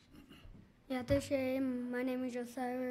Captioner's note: speaking in foreign language